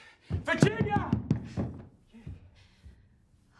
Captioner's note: banging